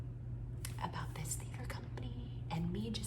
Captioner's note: whispering